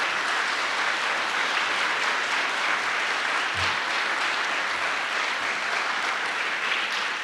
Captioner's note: applause